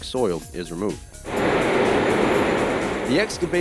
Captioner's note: sounds of excavator machinery